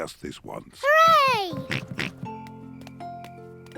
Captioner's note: oinks